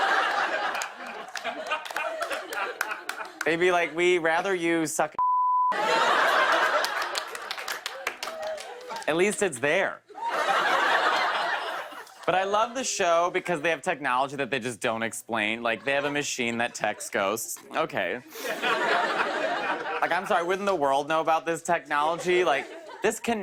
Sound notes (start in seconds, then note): 0.0 laughter; 5.7 laughter; 10.1 laughter; 18.2 laughter